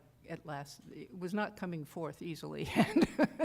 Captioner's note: laughter